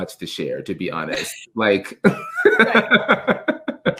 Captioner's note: laughs